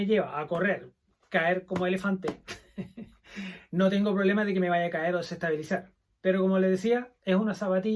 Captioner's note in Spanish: risas